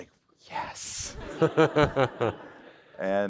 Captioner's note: laughter